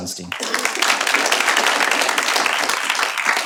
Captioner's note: applause